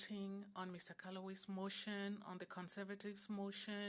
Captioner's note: speaking French